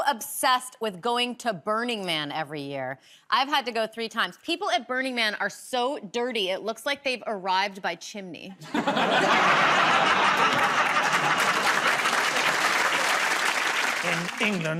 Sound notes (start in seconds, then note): 8.6 laughter; 11.7 applause